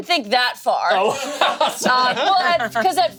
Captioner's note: laughs